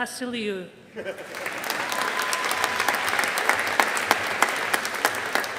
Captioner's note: audience applauding